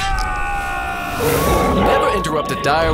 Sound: Direwolf howl

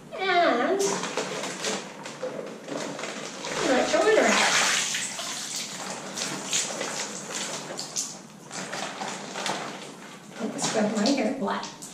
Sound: bag rustles; rushing water

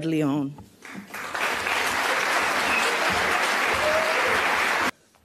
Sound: applause

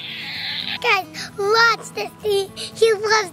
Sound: balloon sounds

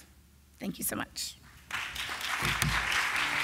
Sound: applause

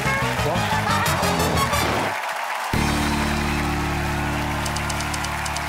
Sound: cheers and applause

